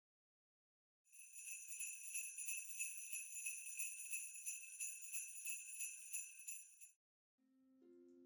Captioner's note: sleigh bells